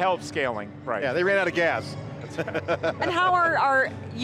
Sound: laughter

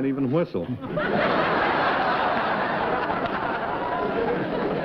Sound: laughter

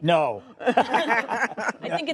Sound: laughter

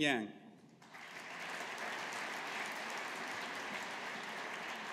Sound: audience applauding

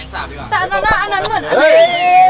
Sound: mwah

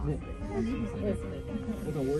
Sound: none

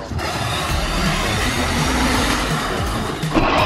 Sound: car buzzing

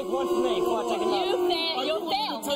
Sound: audience jeering

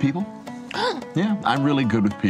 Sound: gasps

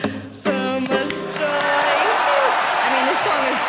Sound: audience clapping

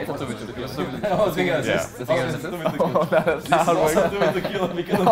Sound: boys arguing

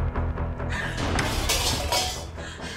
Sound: knife clangs; tense sinister music

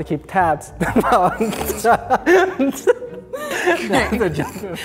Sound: laughing

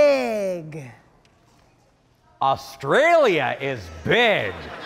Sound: audience laughing

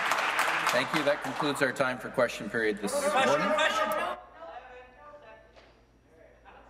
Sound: applause

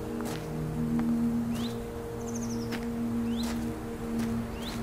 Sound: footsteps crunching on gravel

